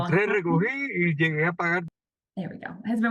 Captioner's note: participant speaks foreign language